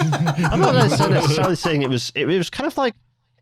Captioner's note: laughter